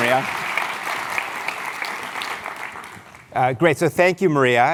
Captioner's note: applause